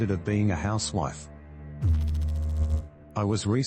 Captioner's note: electrical noise